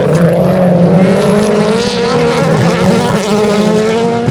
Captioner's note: engine noise